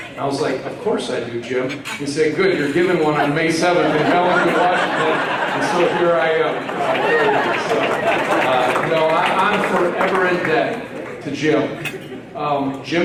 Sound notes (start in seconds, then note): 5.2 laughter